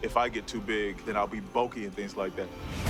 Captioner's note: none